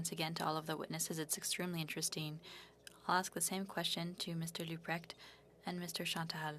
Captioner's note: speaking French